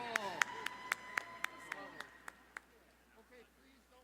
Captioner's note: cheering